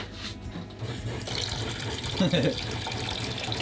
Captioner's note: whirring; chuckling